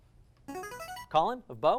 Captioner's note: buzz; ringing